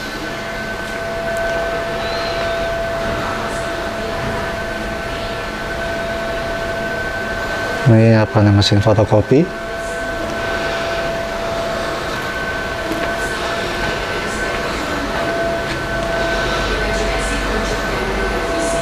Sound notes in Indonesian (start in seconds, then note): 0.3 suara mesin; 9.6 menghela nafas; 11.8 suara mesin; 11.8 suara pengumuman; 15.9 menghela nafas; 15.9 suara mesin; 15.9 suara pengumuman